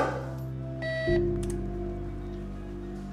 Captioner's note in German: Piepton